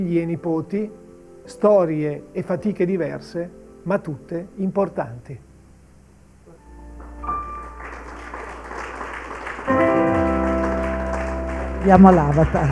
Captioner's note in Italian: Applauso